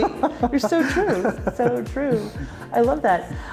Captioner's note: laughing